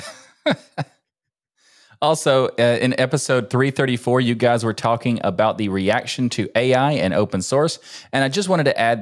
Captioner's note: laughing